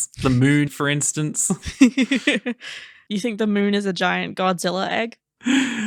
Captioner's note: laughing